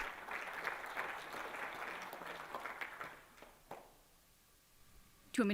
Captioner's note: applause